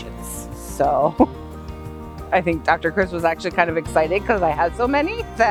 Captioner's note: laughs